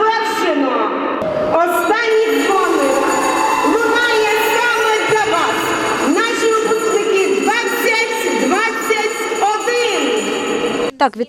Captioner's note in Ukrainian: Звучить шкільний дзвінок